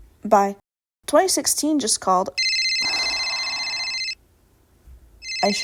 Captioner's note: phone ringing; sigh